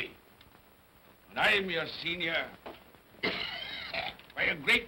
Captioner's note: Scrooge coughs